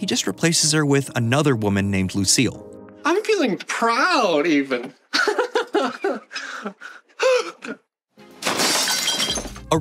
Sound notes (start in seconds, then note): 5.1 laughs giddily; 6.3 gasp; 8.3 shattering